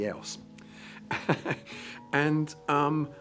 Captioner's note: both laughing